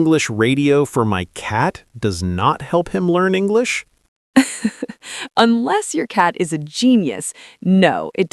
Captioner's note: laughs